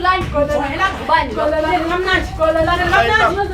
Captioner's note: arguing